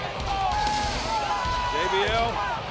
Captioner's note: crowd cheering